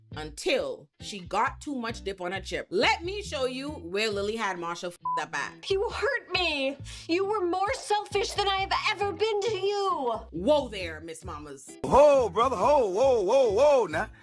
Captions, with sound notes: until she got too much dip on her chip. Let me show you where Lily had Marshall (beep) up at. He will hurt me. You were more selfish than I have ever been to you. Whoa there, Miss Mamas. Whoa, brother, whoa, whoa, whoa, whoa, now.